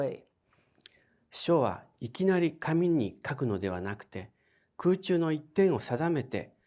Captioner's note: speaking in foreign language